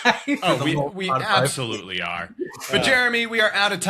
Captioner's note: laughs